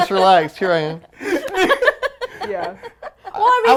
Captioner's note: giggling